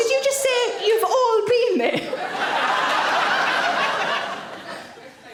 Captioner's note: audience laughing